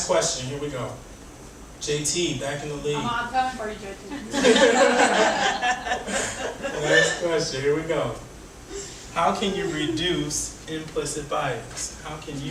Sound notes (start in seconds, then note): 4.2 audience laughing